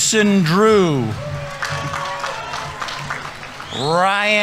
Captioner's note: audience members cheering; audience applauding